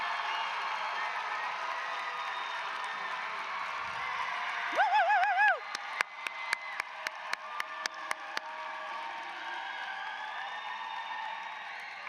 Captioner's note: cheers and applause